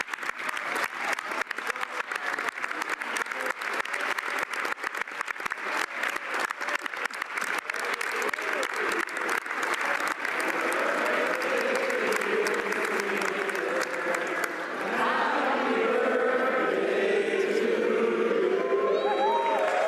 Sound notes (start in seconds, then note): 3.0 some Applause; 7.4 applause